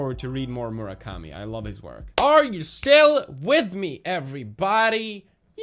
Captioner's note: clap